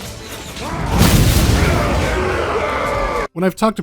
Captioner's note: ba-boom